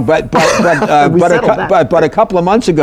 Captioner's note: laughter